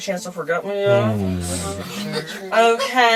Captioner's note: giggles